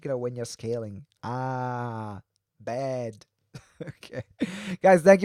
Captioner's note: chuckles